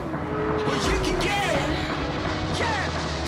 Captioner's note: car engine roars